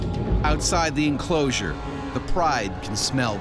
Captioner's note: voiceover